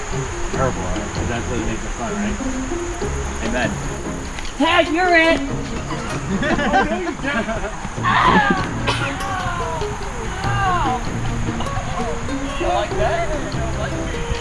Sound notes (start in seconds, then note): 8.9 pretends to scream in pain